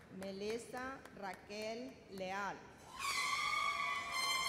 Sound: none

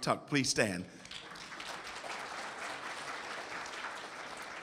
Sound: audience applauds

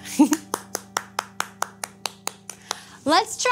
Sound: hands clapping

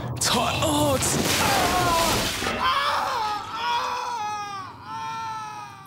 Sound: screams

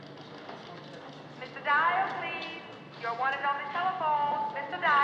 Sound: woman On P.A

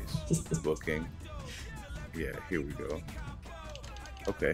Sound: laugh

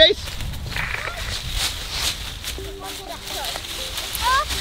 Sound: leaves rustling

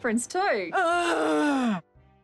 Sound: groans

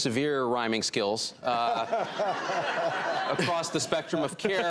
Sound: audience laughing

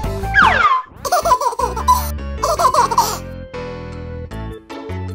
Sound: baby laughing

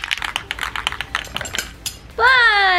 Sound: paint can rattles; my dog shakes, his collar jingles too

